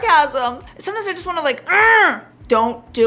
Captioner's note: groans